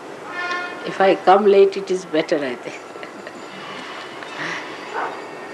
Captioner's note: laughing